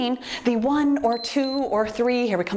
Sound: timer beeps

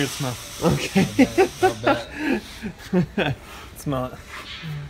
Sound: laughter

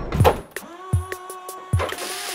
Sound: hammering; motor whirring

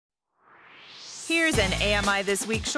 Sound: swoosh

